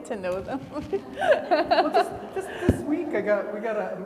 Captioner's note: laughing